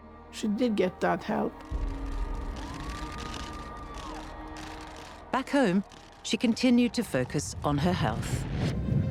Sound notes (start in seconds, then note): 1.6 cameras clicking